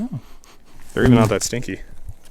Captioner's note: sniffing